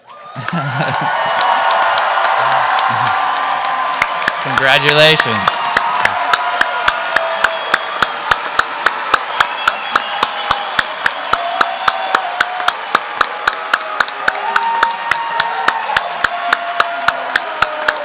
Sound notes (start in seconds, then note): 0.2 cheering; 6.1 applause; 8.6 whooping